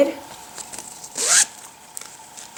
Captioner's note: upzips bag